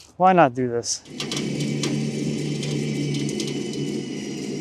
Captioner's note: trailer whirring